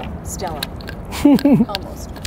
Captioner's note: chuckles